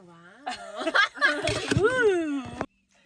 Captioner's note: everyone laughing